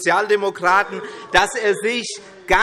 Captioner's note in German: Zurufe SPD